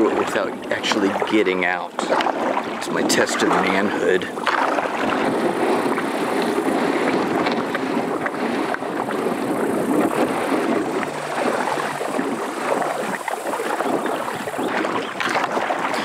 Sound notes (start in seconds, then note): 12.8 water sloshes